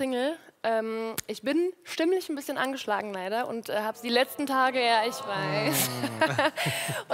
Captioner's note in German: owwwww